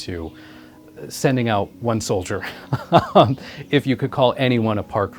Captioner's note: laughs